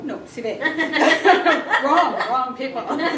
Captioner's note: laughter